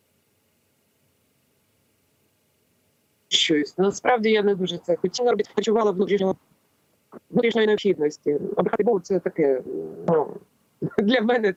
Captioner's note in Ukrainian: поміхи